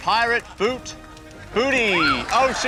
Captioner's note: squeals